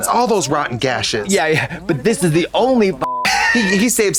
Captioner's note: beep